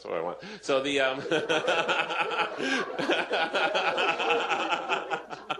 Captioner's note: laughter